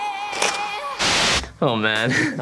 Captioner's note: white noise